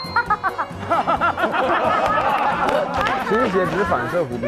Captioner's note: Cantonese; hahaha